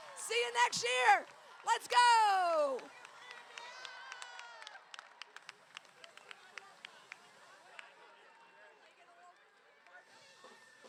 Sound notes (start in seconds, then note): 3.6 crowd cheering